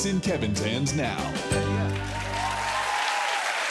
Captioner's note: cheers and applause